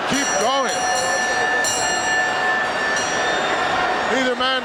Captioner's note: bell ringing